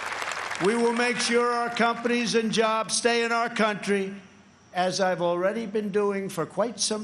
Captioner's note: applause